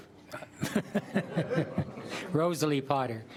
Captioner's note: laughing